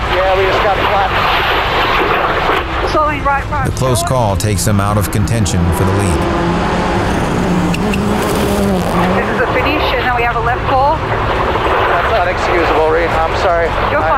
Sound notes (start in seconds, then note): 7.4 car engine revving